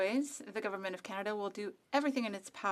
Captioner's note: speaking FRENCH